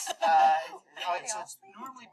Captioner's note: laughter